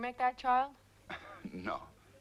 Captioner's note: Pateray chuckles